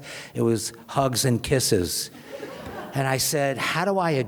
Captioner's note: audience laughs